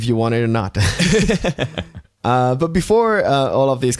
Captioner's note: laughter